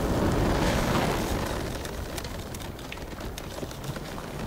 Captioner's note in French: craquements de glace